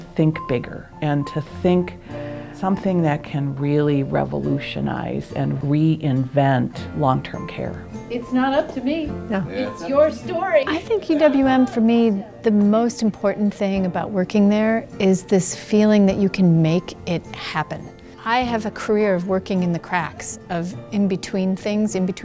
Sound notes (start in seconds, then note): 10.8 laughter